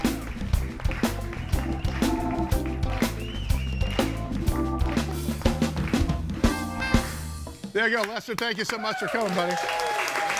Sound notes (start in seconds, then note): 0.0 audience applauding; 0.0 groovy music; 10.1 audience cheering and applauding